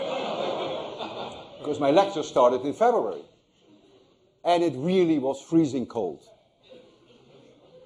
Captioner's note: laughter